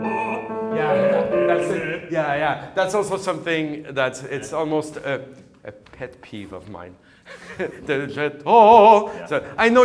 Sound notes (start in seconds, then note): 7.3 chuckles